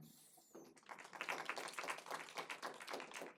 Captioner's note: applause